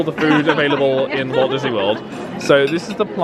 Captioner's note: group laughing